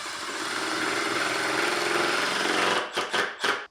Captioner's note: driller whirring